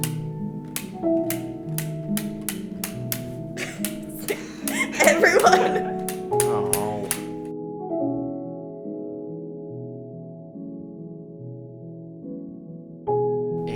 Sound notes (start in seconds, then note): 5.7 Terry groans